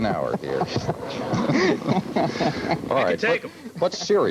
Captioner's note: laughing and struggling